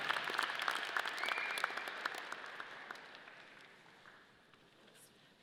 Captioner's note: audience applause